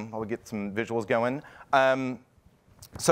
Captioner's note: none